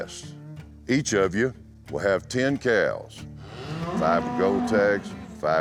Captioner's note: cow moos